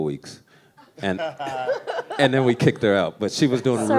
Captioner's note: laughs